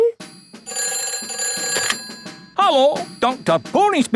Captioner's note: ringing